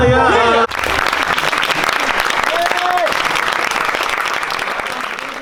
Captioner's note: crowd applauding